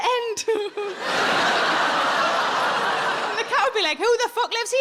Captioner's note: audience laughing; chuckles